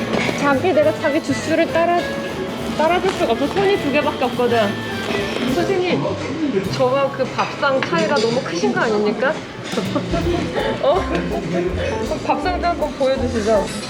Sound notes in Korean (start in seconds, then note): 10.2 웃음